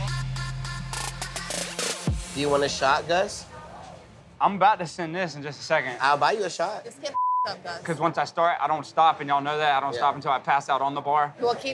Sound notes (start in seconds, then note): 7.1 beep